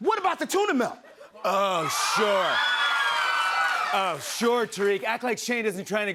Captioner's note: cheers and applause